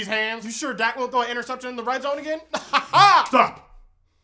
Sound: laughing

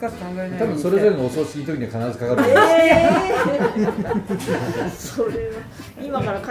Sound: laughter

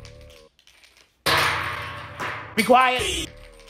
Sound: bean rattling; bean twanging

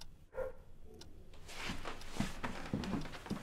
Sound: dog barks

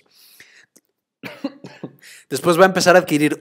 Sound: cough, cough

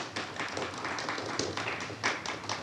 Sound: audience applauds

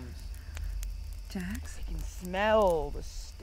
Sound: quietly

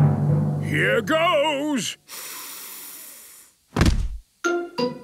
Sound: dramatic drumming music; sniffs

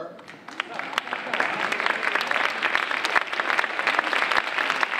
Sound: audience applauding

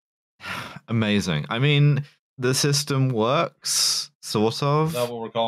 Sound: sighs

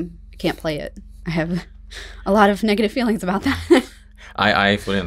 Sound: both laugh; chuckles

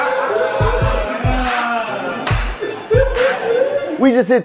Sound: laughter

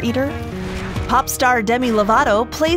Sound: air whooshing

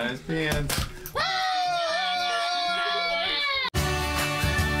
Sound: all yelling; upbeat music

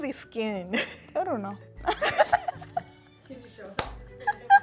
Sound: both laughing

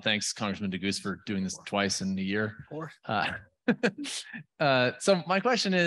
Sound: laughing

